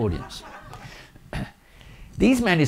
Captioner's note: audience laughing